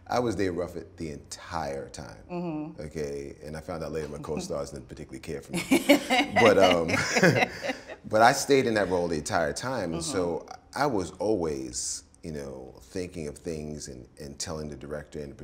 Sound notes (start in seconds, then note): 5.5 both laughing